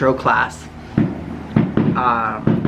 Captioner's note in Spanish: Fuertes estruendos en el exterior